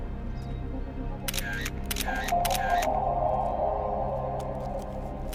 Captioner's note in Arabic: نقرات الكاميرا